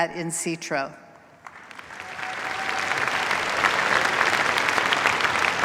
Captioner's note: cheers, applause